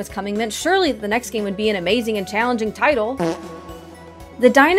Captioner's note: fart reverb exp share